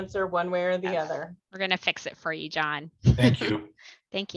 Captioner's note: laughter